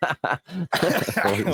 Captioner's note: laughing